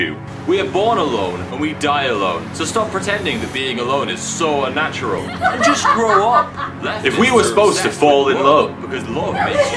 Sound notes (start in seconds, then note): 5.1 evil laughter; 9.2 more laughter